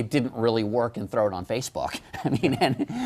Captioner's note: laughter